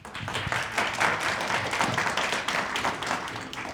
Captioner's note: applause